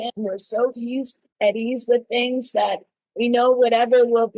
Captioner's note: none